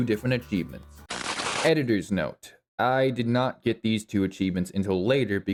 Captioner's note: Static